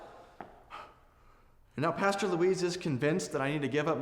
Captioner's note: sighs